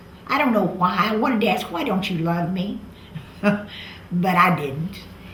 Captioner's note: laughs